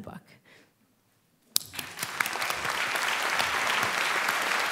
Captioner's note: applause